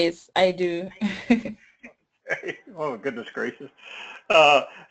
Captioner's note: laugh